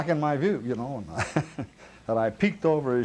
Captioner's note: chuckles